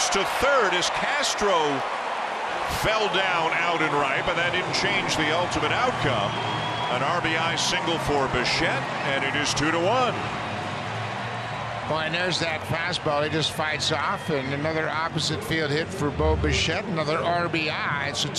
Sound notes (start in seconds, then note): 11.5 cheering and Applause